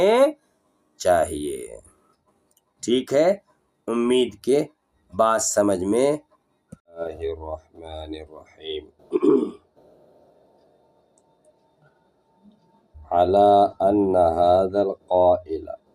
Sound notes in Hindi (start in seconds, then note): 9.1 गला साफ़ करने की आवाज़